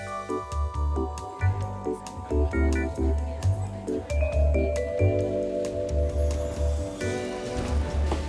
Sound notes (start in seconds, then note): 1.2 airport chatter